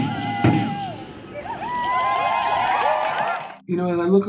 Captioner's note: cheering